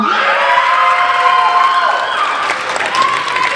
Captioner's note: applauding